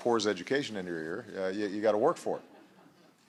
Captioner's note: laughter